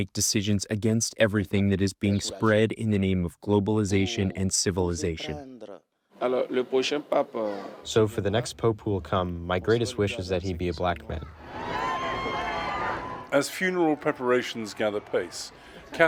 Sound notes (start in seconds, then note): 7.2 through translator